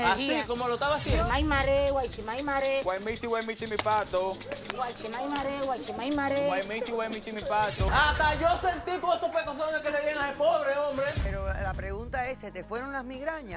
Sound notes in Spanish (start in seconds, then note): 0.8 Sonido de maraca ritual; 4.6 Hablan en otra lengua